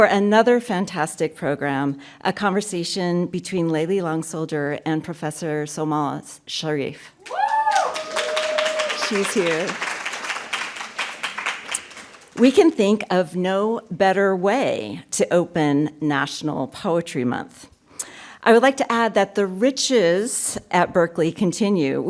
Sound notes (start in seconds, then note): 7.2 applause